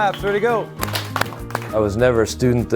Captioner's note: students clap